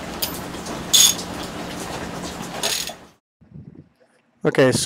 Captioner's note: ratchet sound